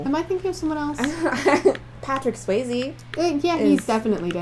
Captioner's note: laughter